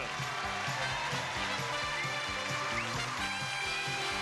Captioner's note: crowd cheering